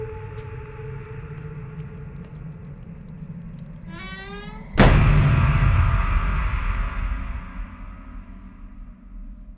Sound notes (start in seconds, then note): 3.5 door creaking; 3.9 door slamming